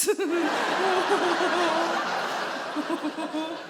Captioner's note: she giggles